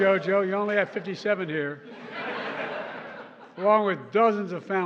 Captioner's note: laughter